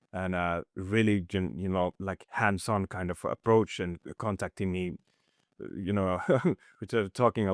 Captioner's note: chuckles